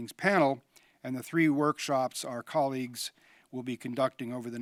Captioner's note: none